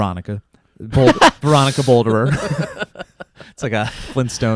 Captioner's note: laughs